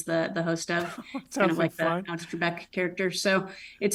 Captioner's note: laughs